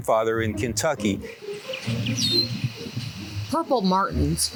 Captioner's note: birds chirping